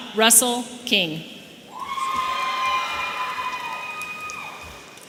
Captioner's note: audience cheering